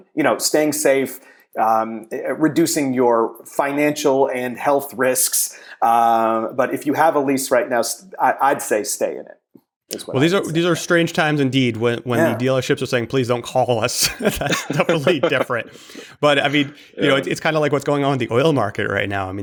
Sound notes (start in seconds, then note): 14.0 laughter